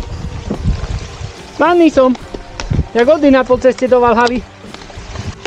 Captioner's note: creek splashing sound